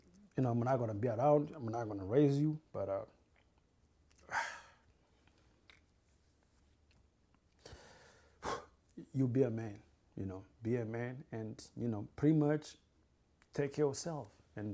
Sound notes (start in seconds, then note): 3.3 crying; 4.2 sighs